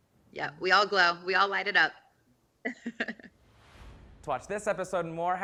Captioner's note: laughs